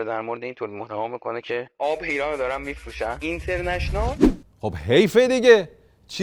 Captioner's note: none